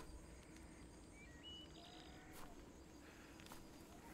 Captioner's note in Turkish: Kuş cıvıltısı sesleri